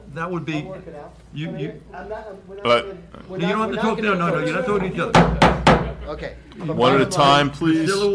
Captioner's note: gavel